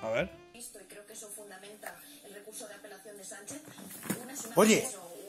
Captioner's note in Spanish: Televisión de fondo